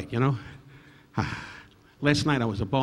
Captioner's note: Don exhaling deeply